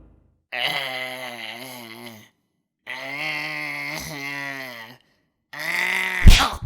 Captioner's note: groans Intensify